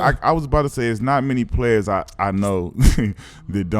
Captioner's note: laughs